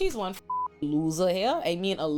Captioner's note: beep